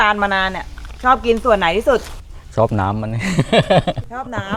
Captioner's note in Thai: เสียงหัวเราะ